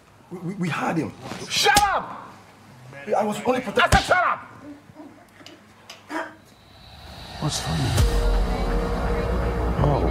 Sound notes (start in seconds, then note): 1.6 slap smacks; 5.1 henchman chuckles; 8.5 ominous music